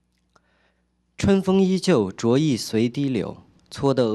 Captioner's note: speaking chinese